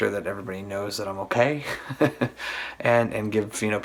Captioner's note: laughs